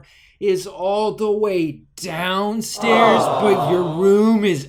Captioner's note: crowd